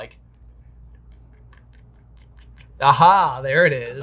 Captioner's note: tapping sounds